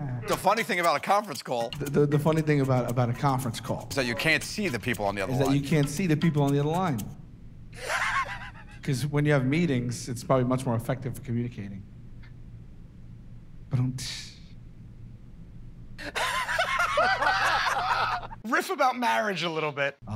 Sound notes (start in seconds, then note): 16.0 laughter